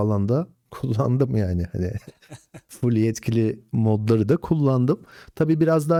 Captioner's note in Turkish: kahkaha